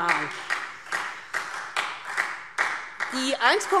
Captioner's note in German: Beifall Freie Demokraten